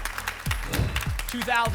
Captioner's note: whoosh